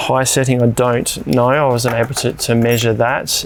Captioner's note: clicking sound